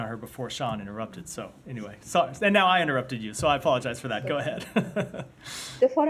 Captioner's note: laughter